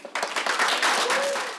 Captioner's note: applause